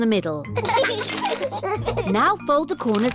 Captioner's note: both giggling